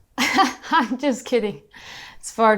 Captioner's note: laughs